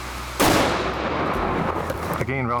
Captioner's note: gunshot fires